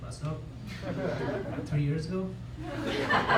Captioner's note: laughter